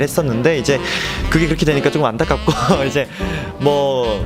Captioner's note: laughs